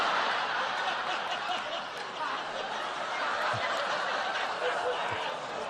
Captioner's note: laughter